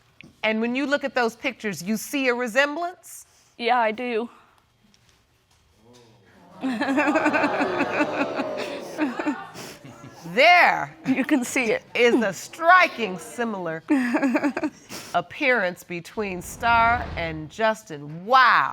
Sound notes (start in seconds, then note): 6.6 laughing